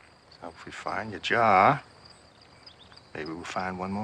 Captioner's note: none